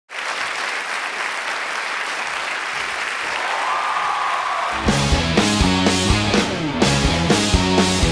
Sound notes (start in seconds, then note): 0.0 audience applauding; 3.7 audience cheering; 4.7 upbeat music